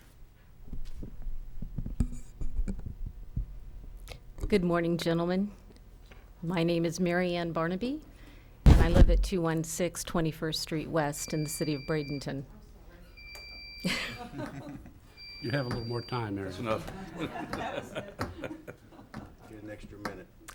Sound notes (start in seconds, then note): 13.4 timer beeping; 16.7 chuckles